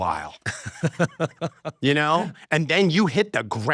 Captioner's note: laughs